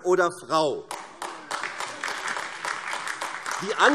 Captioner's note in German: Beifall AfD